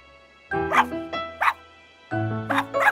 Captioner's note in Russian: Лай Сони